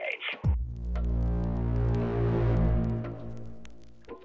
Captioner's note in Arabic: مركب الغدر sfx; دقات طبلة ناعمة